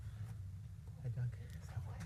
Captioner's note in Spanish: hablar en voz baja